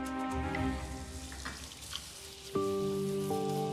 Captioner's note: water running; soft music